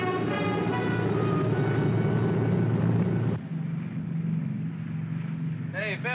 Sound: aircraft rumbles

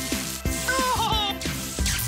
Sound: laughs

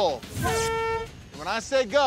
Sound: hooter honks

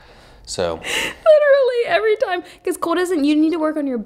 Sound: laughing

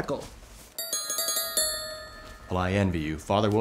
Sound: tink bells

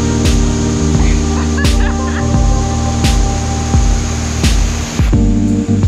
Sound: laughter

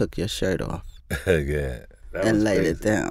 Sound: laughs

